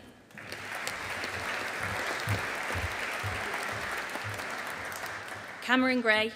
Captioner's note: audience applauding